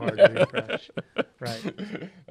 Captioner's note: laughs